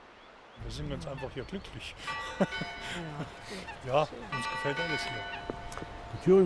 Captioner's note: laughs